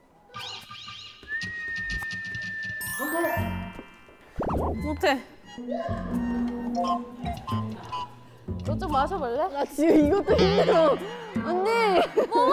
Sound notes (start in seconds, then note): 0.4 whistling